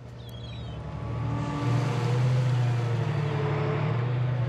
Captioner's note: crane creaking